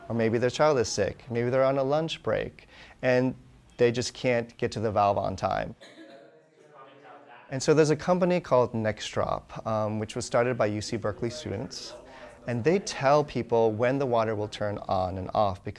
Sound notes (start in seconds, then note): 5.9 all chattering